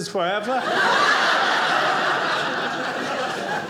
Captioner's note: audience laughing